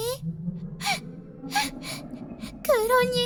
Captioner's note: Melon soda candy Sobbing